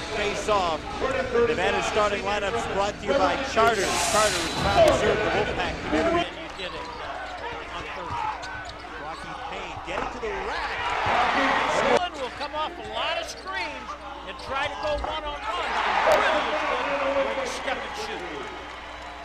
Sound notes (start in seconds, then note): 15.1 crowd cheering